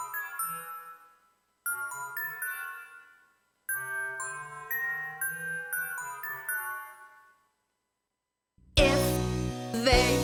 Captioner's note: chiming sounds